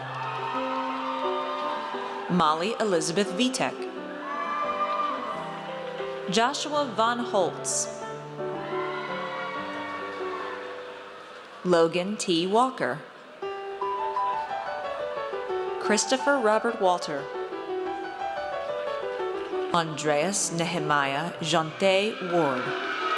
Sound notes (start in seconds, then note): 0.0 audience cheers; 8.4 audience cheers; 22.0 audience cheers